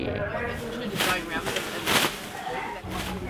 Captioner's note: sound of a plastic bag shaking out